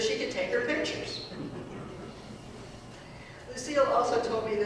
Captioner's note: audience laughing